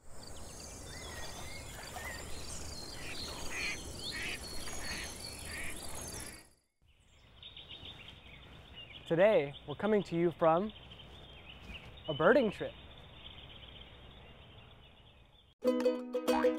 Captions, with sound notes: [BIRDS CHIRPING] [DUCKS QUACKING] [BIRDS CHIRPING] Today we're coming to you from a birding trip.